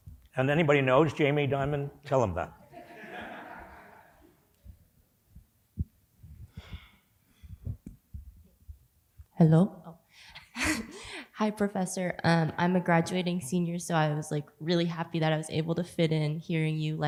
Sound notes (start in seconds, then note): 2.7 laughter